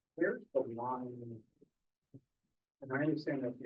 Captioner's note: student speaking faintly off mic